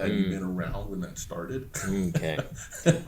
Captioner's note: laughs